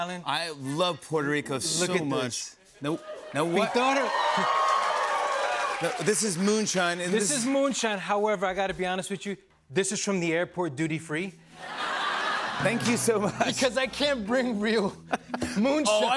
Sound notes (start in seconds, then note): 3.0 cheers and applause; 11.6 laughter